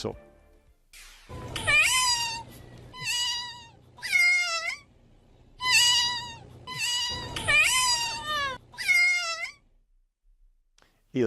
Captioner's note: llantos